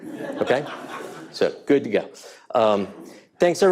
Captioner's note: audience laughing